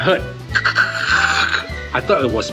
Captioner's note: tire slipping sounds